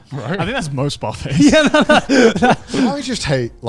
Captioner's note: all laughing